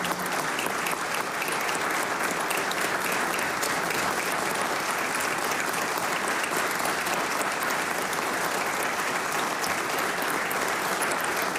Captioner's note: applause